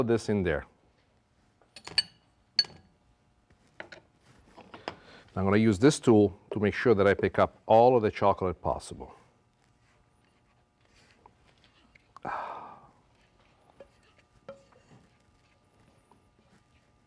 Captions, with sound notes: all of this in there. I'm going to use this tool to make sure that I pick up all of the chocolate possible. [sighs]